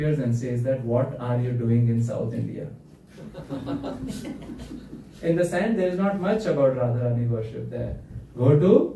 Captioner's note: laughter